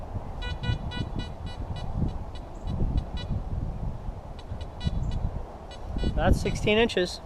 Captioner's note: detector beeps